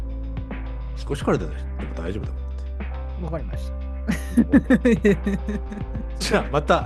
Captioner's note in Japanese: 笑い